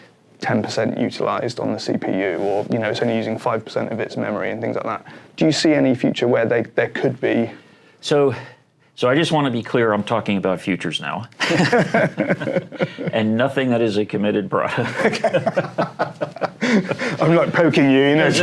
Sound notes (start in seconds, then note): 11.4 laughter; 14.7 laughter